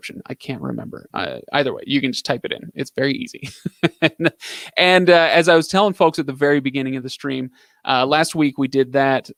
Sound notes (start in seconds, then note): 3.3 laughing